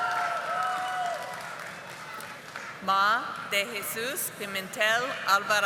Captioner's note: audience applauding